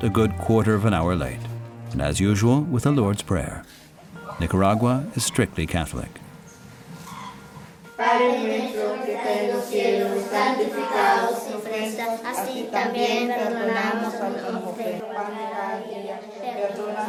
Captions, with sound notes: Today they start a good quarter of an hour late and as usual, with the Lord's Prayer. Nicaragua is strictly Catholic. (children praying in Spanish)